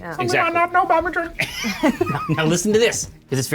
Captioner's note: players laughing